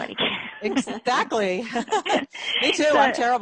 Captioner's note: laughing; laughs